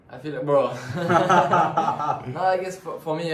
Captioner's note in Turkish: gülüşmeler